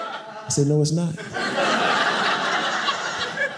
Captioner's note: audience laughing